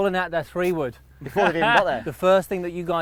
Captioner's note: laughing